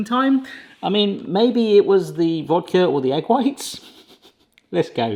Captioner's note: chuckles